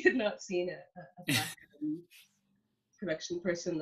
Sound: laughs

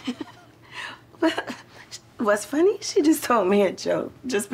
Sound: laughs

